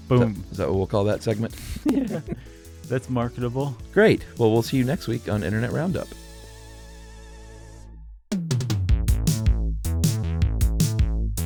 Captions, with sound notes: Is that what we'll call that segment? (laughs) - That's marketable. - Great, well, we'll see you next week on Internet Roundup. (energetic, fun music)